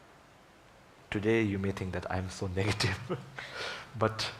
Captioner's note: laughs